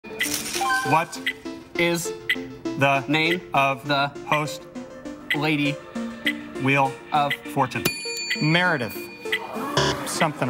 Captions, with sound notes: What is the name of the host lady Wheel of Fortune? [bell dings] MEREDITH.